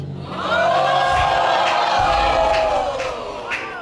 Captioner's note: audience exclaims